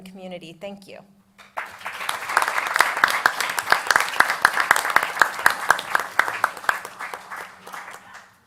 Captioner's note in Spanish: Aplausos